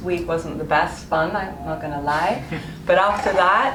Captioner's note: laughs